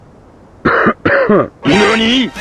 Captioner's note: coughs inquiringly